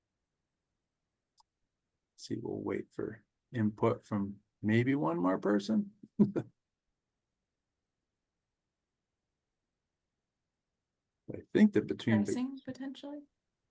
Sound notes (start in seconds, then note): 6.1 chuckles